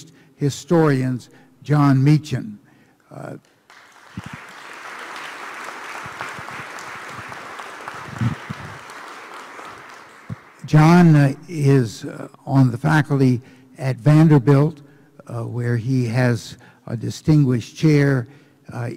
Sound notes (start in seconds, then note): 3.4 applause